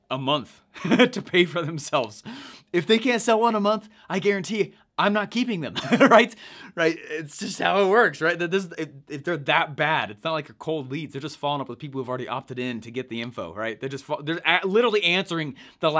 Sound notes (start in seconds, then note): 5.8 laughs